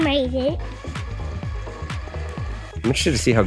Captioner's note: RC car whining